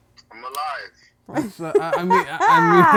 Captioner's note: laughs